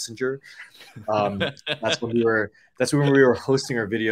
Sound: laugh

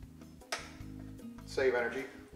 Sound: switch clicks

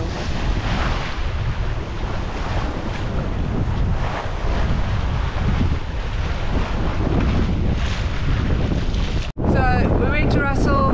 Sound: wave noise

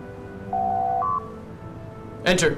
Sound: door Chime

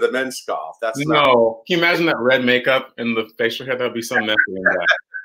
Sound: laughs

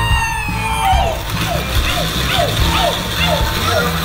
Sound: hooting and hollering

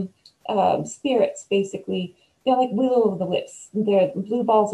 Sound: none

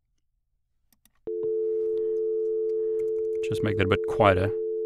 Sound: dial tone

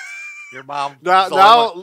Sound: laughs

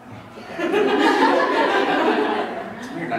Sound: laughter from INSIDE the room

